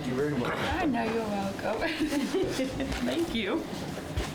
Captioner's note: laughs